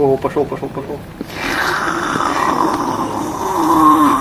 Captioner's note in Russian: звук присасывания